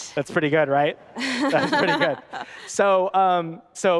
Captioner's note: laughing